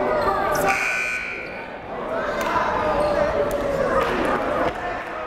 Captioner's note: buzzer blaring